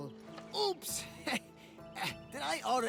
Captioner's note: laugh